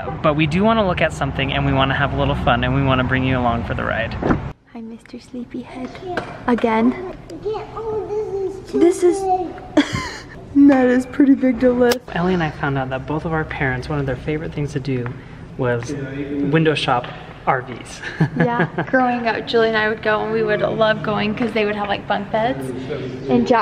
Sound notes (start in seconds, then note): 18.0 laughs